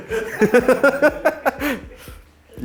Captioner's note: giggling